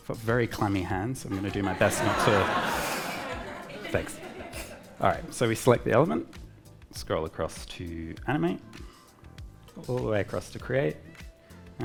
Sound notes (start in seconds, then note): 1.3 audience laughing